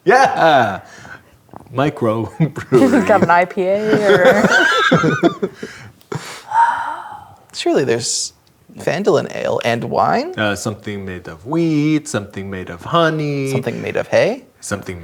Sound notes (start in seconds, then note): 3.7 players laughing; 6.4 sighs, as character